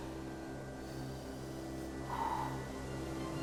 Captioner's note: exhales